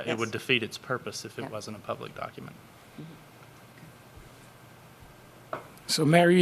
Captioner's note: A pause